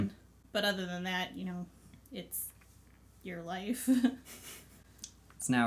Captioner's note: laughs